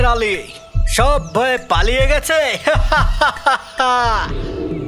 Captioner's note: laughs